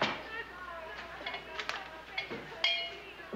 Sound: clunk

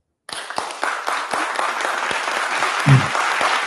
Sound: applause

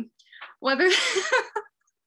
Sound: laughs

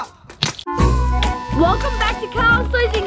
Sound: cracking

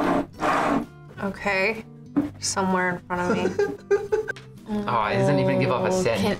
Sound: laughs

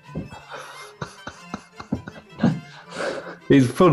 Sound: chuckling

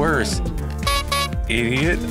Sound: honking

